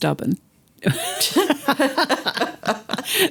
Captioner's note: laughter